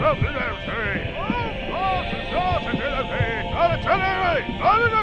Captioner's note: shouting